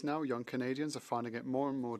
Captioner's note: speaking French